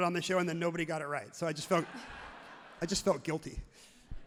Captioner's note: everyone laughs loudly